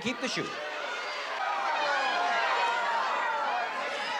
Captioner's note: cheering